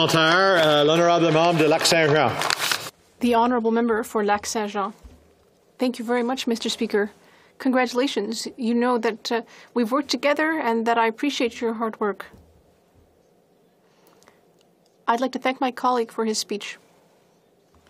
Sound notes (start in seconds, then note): 4.9 speaking French